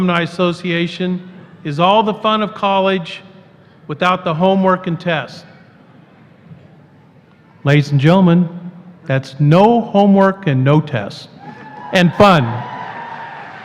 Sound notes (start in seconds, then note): 11.4 applause